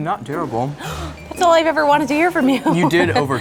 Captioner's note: gasps